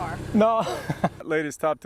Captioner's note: laughs